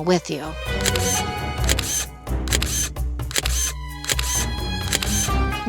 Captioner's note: camera shutter snaps